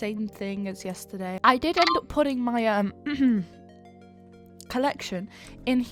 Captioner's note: clears throat